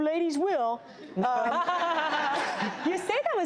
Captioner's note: laughing